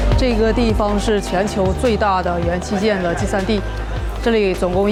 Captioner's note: upbeat music; speaking foreign language